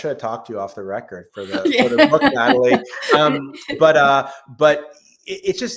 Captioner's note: laughs